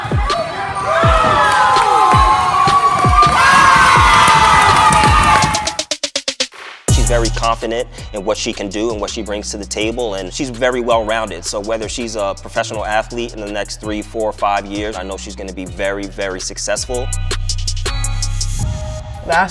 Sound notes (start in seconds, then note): 0.0 crowd cheers; 0.0 crowd chatters